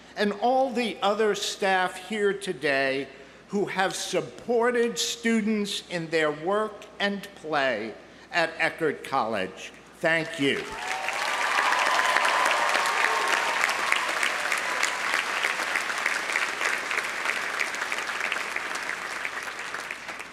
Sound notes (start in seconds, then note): 10.5 audience applauding; 10.6 audience cheering